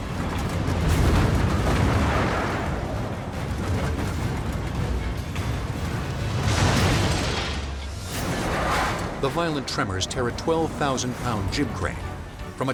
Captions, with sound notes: (cement crumbling) (crane slams) The violent tremors tear a 12,000 pound jib crane